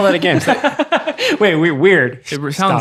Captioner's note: laughing